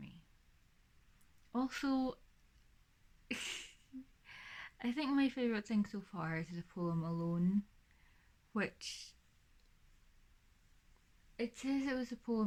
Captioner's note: laughs